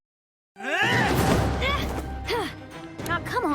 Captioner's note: both grunting; gasps